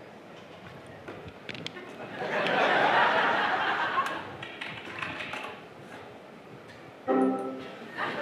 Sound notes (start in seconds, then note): 4.4 typing; 7.1 computer tone